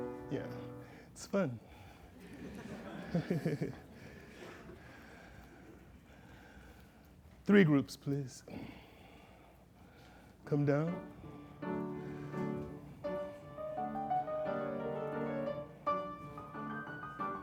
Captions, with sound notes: Yeah, it's fun. [laughter] Three groups, please. Come down. [piano music starts playing]